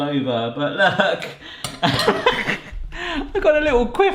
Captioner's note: laughs